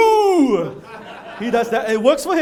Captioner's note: laughter